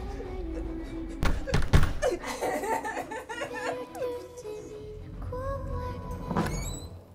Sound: feet thudding; Nova sobbing

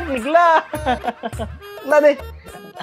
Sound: laughing

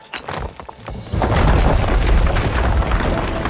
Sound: rocks rumbling; orchestra music

